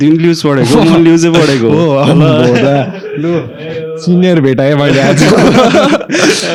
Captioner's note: laugh